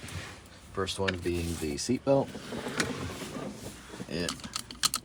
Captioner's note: seat belt rattling